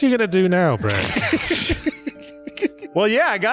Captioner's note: laughter